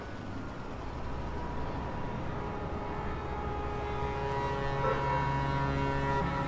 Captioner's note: pedestrians chattering; pensive music